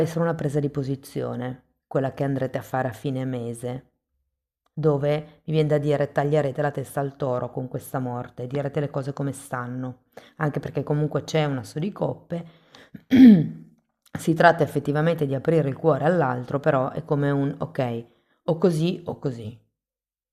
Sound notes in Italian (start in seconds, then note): 13.0 schiarire la voce